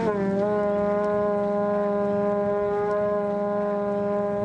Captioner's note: horn sounding